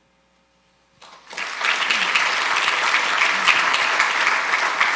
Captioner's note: audience applauding